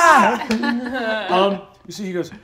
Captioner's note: all laugh